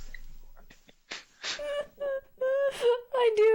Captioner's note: laughing